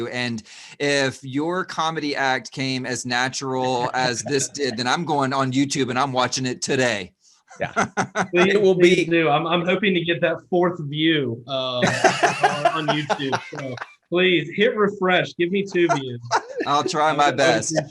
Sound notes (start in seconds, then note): 3.6 laughs; 7.6 laughs; 11.7 laughs